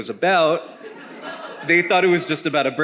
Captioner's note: attendee laughing